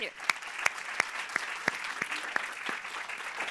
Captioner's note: applause